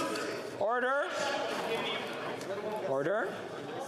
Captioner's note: yelling